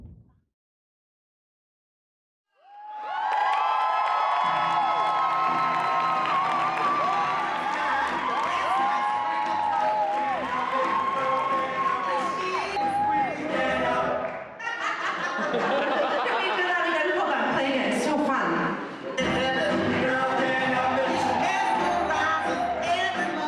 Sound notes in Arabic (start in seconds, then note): 3.1 هتاف; 14.6 تضحك